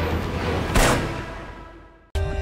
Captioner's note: gun shot